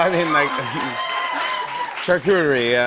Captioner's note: cheers and applause